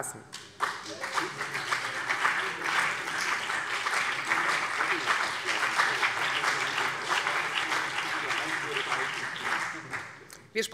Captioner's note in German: Beifall BÜNDNIS 90/DIE GRÜNEN und vereinzelt CDU